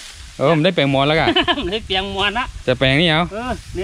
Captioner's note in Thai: หัวเราะ